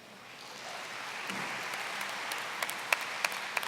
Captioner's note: applause